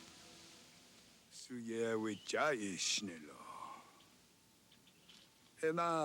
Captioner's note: man speaks Indigenous language